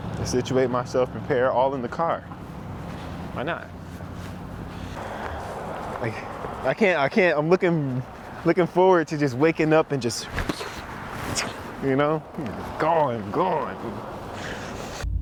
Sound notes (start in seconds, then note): 11.7 makes driving noises